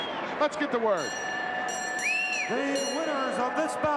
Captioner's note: bell dinging